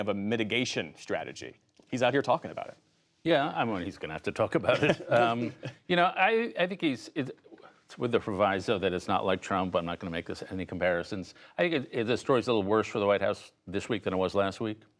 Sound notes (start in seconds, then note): 4.6 laughter